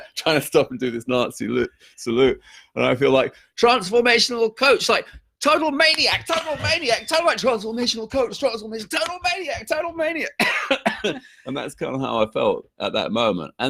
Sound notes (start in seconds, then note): 10.2 coughs